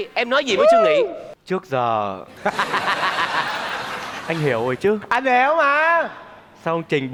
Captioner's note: laughing